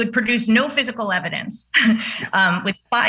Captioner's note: chuckles